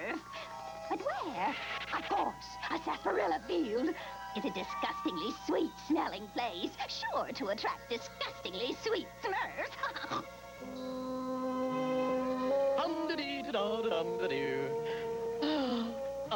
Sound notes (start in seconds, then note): 9.9 snorts; 14.6 yawns